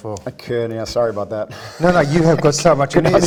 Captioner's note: laughs